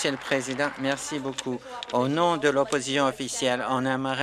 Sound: applause

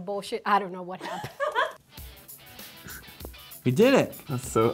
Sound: laughs

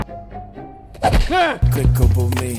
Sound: kick

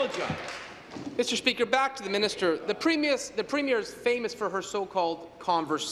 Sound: applause

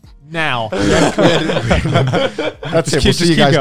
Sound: everyone laughs

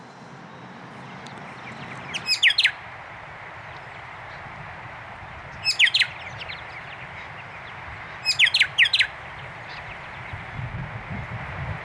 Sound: bird chirping

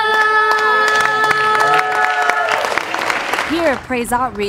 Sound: applause

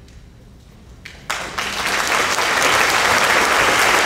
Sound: applauding

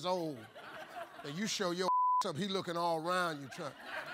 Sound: beep

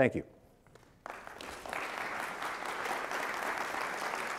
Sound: audience applauding

